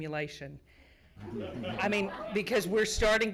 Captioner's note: laughing